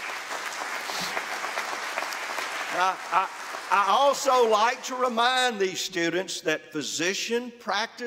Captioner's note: applause